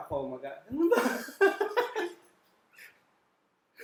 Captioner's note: laughs